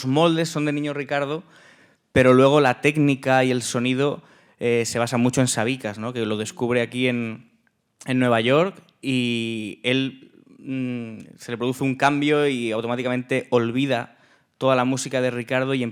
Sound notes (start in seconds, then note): 2.2 speaking in Spanish; 11.8 speaking in Spanish